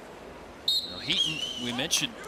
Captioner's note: whistles blows